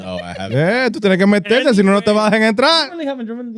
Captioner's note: speaking In Foreign Language